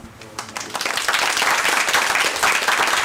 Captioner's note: applause